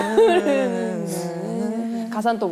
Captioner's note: humming